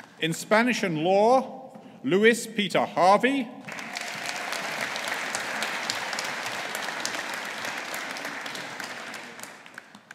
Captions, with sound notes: In Spanish and Law, Lewis Peter Harvey. (AUDIENCE APPLAUDING)